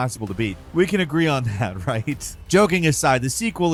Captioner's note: chuckling